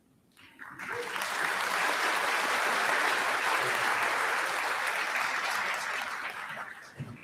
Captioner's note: applause